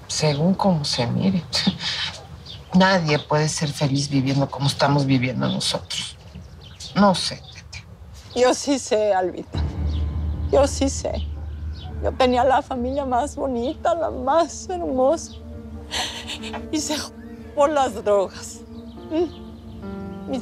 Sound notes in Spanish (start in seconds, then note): 15.8 Sollozos